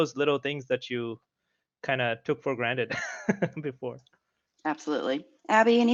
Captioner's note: laughs